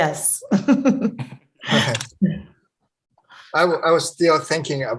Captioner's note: laughing